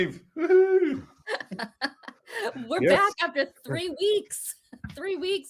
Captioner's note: laugh